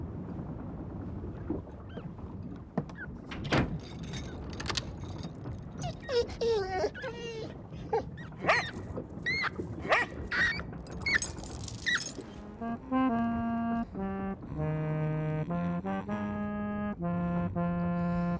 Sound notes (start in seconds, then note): 4.1 clicking; 5.9 Patch whining; 7.8 Patch barking; 9.2 rats squeaking